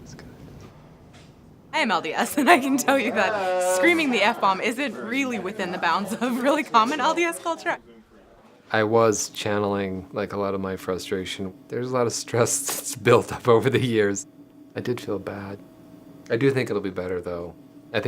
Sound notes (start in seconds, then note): 1.9 laughing